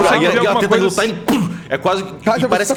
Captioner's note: pow